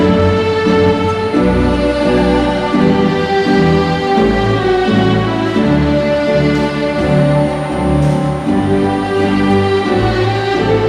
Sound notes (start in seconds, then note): none